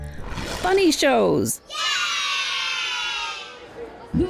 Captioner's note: kids shouting "yay!"